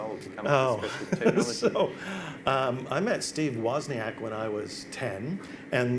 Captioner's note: laughs